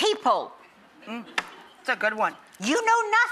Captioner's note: slaps